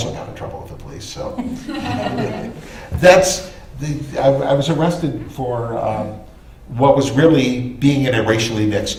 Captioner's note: laughter